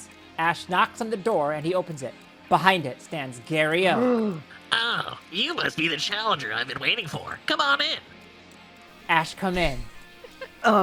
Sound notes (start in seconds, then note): 3.9 someone gasps; 9.9 laughs